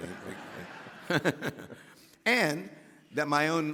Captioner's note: laughing; audience laughing